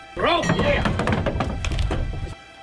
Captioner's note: cans fall